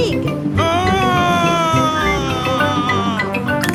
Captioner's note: screaming